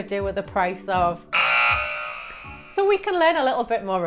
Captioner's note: buzzer buzzes